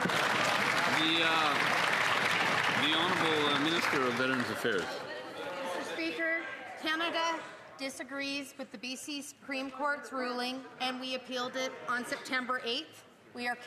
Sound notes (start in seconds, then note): 5.0 some Applause